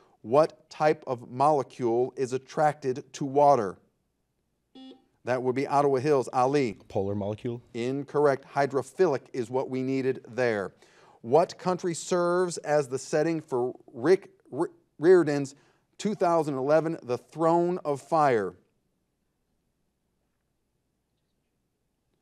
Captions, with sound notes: What type of molecule is attracted to water? (buzzer buzzes) That would be Ottawa Hills, Ali. - Polar molecule. - Incorrect, hydrophilic is what we needed there. What country serves as the setting for Riordan's 2011 "The Throne of Fire"?